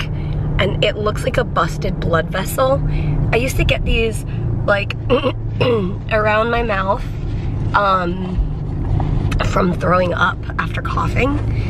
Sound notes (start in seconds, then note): 5.6 clearing throat